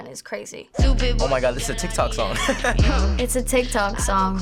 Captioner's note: laughs